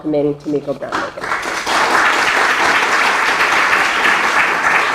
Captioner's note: applause